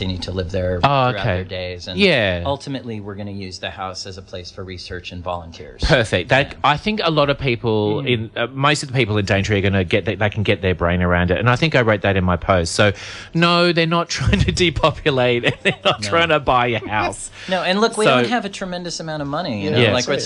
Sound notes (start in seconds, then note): 15.2 laughs